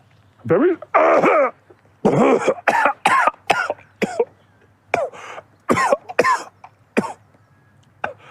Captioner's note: chokes